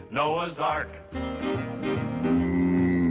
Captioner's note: mooing